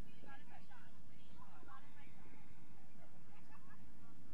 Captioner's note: crowd chattering